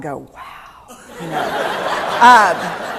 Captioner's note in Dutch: Gelach